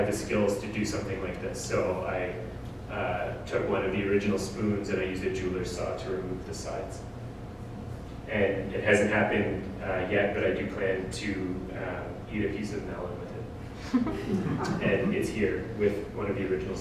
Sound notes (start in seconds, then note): 13.8 audience: Laughter